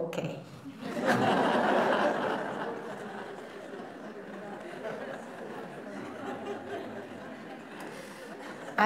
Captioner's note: laughter